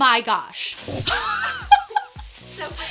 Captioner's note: laughter